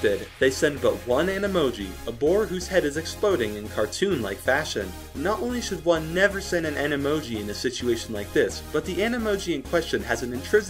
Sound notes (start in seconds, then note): none